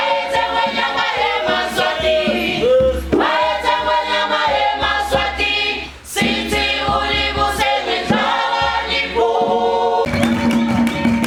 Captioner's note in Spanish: ovación